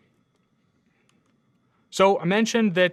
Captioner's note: computer mouse clicking